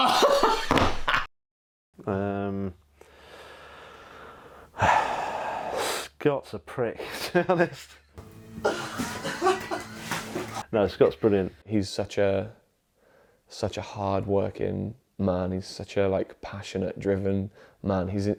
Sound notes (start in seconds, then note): 0.0 both laughing; 8.6 laughing